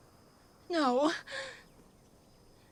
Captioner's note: sobs